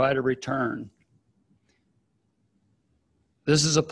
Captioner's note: silence